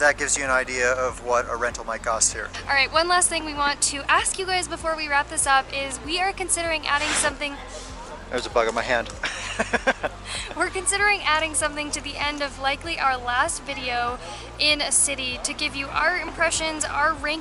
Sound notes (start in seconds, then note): 6.8 blowing sound; 9.2 laughter